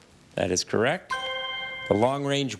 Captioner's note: chime resonating